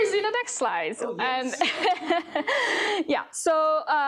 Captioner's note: laughs